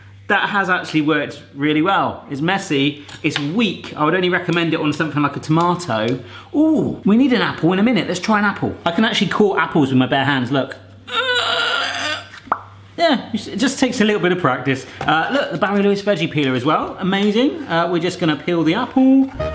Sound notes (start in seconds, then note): 10.9 heaving; 10.9 popping